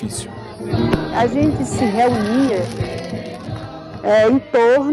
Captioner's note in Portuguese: fogos de artifício